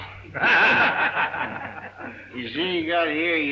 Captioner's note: group laughs